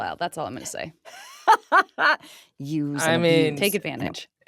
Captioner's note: laughs